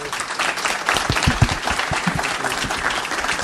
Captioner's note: audience applauds